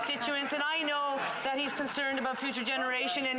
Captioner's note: some Applause